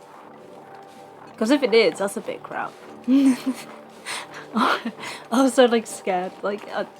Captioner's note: laughs